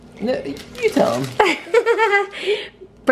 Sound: laughs

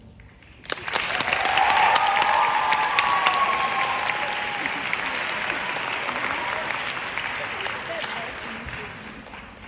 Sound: applauds

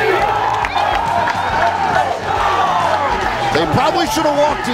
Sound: crowd cheering

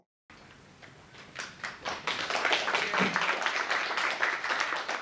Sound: applause

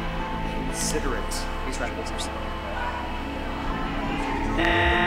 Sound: static noises; mysterious music

